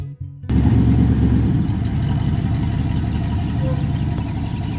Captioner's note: truck rumbles